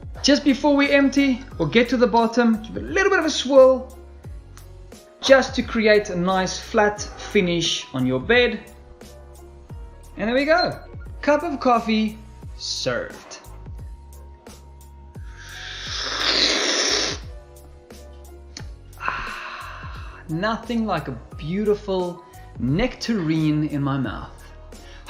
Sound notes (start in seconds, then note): 15.4 slurping